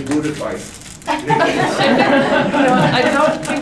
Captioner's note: laughter